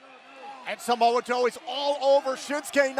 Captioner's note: crowd cheering